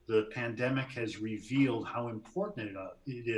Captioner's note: laughs